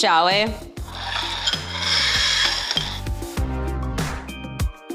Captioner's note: plates sliding; light pop music